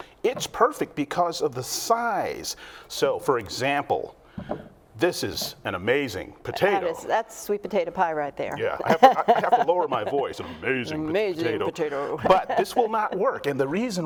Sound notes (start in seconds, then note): 8.6 chuckles; 12.0 chuckles